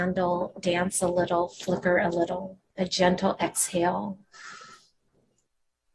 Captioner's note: exhales